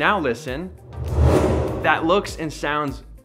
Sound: emphatic swooshing

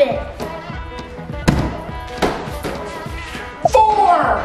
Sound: giant cube hits floor

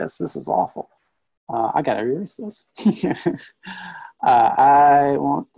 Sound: laughs

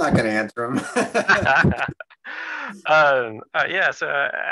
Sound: laughs

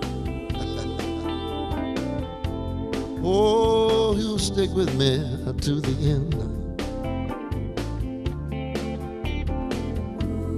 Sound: chuckling

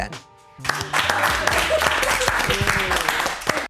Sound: all clapping

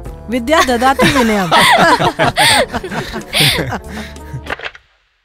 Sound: laughs

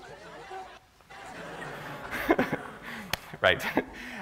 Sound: laughter

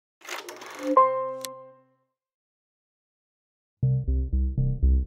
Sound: logo clicks; musical tone; tense music

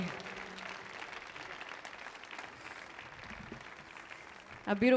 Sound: audience applauding

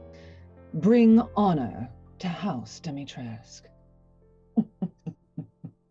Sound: chuckles

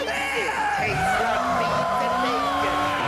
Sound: tires screeching

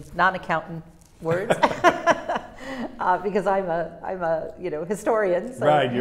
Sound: laughs

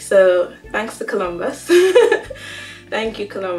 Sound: laughter

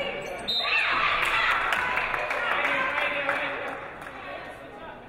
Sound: referee blows whistle

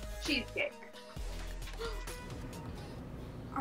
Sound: woman gasps; laughs

